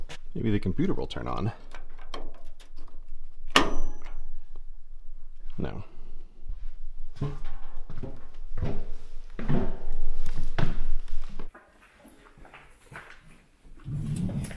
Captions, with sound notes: Maybe the computer will turn on. [switch flipping] clank No.